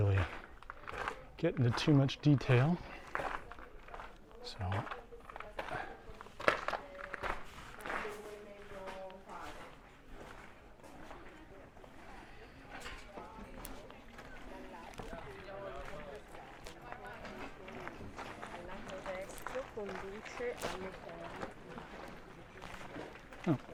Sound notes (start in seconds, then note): 4.8 background chatter